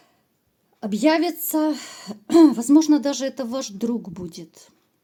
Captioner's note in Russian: откашливается